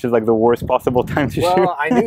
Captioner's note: laughs